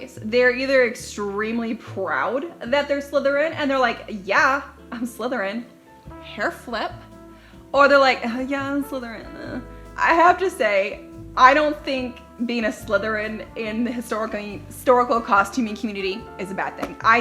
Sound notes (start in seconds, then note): 9.6 groans